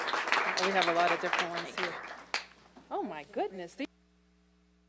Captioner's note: applause